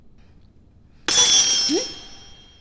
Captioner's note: thuds